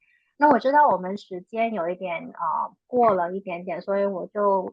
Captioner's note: speaking chinese